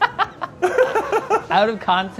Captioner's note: laughs